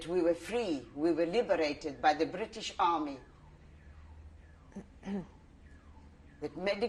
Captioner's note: pauses for 3 seconds